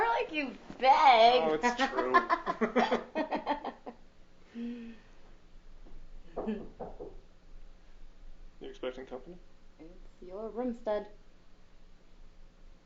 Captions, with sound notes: - Right, you begged. - It's true. (laughing) (knocking on door) - You expecting company? - It's your room, spud.